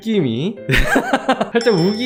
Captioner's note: laughing